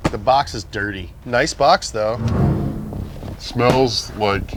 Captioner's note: suspenseful sound effect